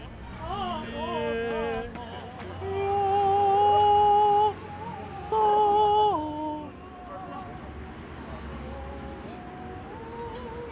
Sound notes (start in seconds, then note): 0.3 tenor singing; 6.9 park ambient sound